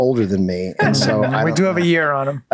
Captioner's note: laughs